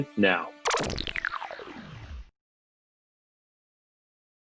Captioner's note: futuristic sounds